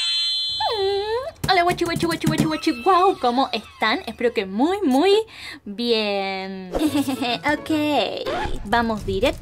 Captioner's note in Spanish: risa malvada